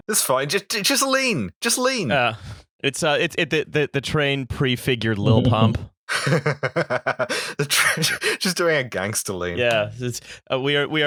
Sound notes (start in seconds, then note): 6.1 laughter